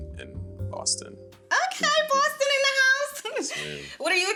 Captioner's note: Oliver laughing